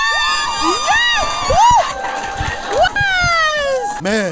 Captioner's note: cheering